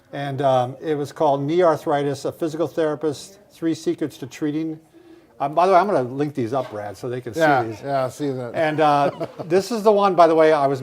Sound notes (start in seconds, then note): 8.5 laughing